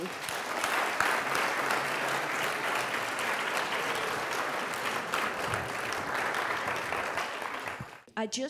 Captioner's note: applause